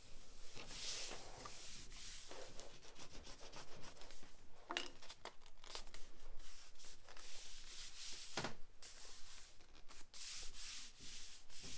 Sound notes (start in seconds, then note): 2.6 rubbing sound